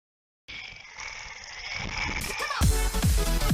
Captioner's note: growling